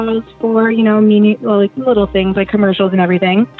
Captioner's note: none